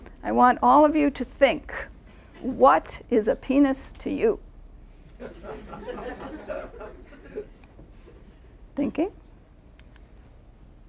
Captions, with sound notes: I want all of you to think what is a penis to you? (laughing) Thinking.